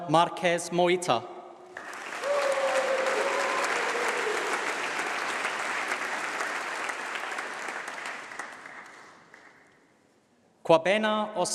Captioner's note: applause